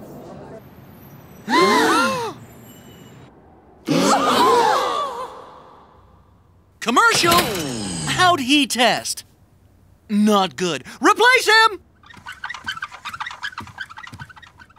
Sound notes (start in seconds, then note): 0.3 gasping; 11.8 creaking